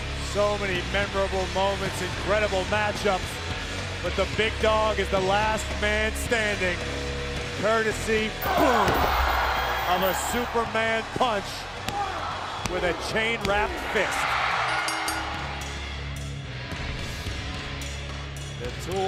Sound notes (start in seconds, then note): 8.7 crowd cheering; 14.5 crowd cheering; 14.5 bell dinging; 14.6 upbeat rock music continues